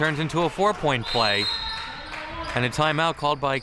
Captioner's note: whistle chirping